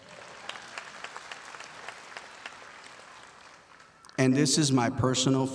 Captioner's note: audience applauding